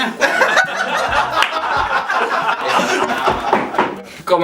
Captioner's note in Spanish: Risas